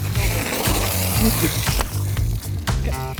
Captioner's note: water sloshing